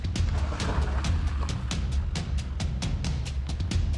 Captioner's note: car engine revs